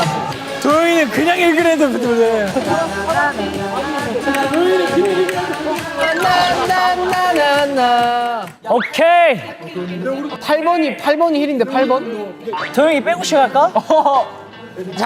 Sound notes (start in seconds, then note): 8.6 confident